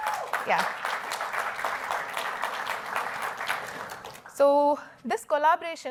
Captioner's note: applause